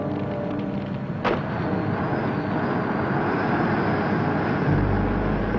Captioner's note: door thuds close